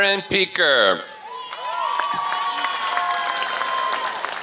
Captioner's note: applause